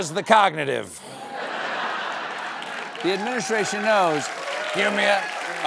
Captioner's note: applause